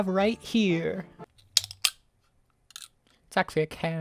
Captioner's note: can opening